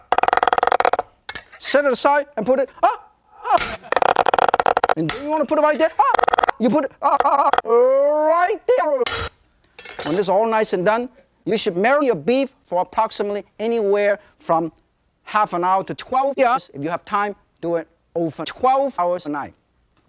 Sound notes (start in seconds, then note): 0.1 knife cutting p-p-p-pep-p-p-pers machine-gun style; 3.5 knife slams on bench; 3.5 knife cutting p-p-p-pep-p-p-pers machine-gun style; 4.8 knife hits bench; 6.0 knife un-cutting p-p-p-pep-p-p-pers machine-gun style; 9.0 knife slams on bench; 9.8 knife clatters on bench